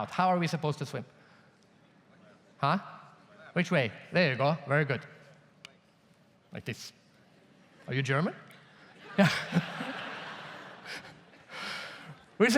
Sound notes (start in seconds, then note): 2.4 audience murmurs; 9.0 audience laughs